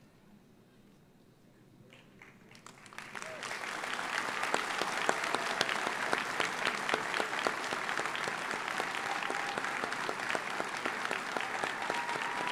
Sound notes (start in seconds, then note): 2.2 audience applauds; 3.1 audience cheers